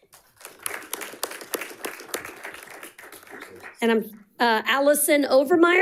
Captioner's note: audience applauding